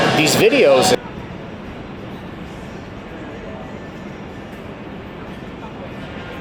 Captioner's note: distant traffic thrumming